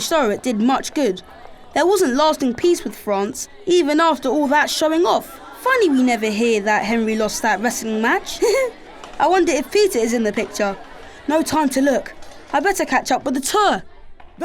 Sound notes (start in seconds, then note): 7.5 giggles